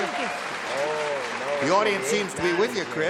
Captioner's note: applause